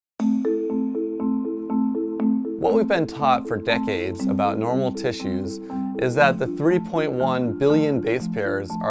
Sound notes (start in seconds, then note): 0.2 inquisitive music; 2.6 voiceover